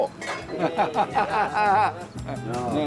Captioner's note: laughs